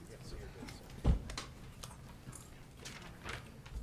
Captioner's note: people chattering